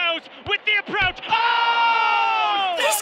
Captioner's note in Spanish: gemido comentaristas deportivos